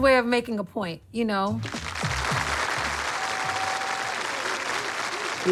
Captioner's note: applause